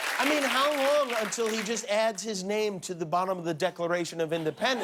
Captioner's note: applause